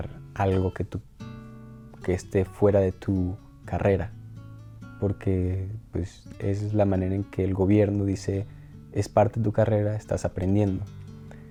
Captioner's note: continues speaking Spanish